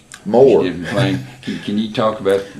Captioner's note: laughs